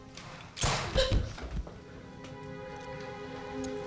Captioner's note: gun bangs